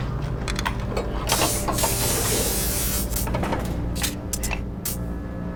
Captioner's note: machine buzzing